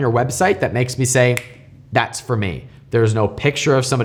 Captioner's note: snaps